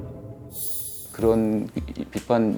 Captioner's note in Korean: 반짝이는 효과음